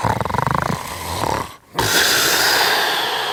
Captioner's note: snoring